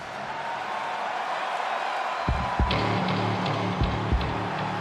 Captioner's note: crowd cheering; tense music